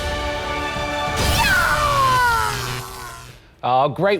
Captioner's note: electricity zaps